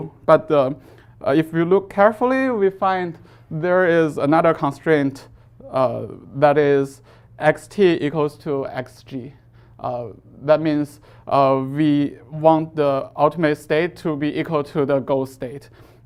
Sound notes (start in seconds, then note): none